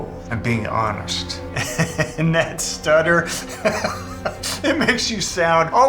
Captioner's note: laughs